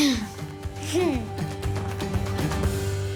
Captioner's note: laughs; chuckles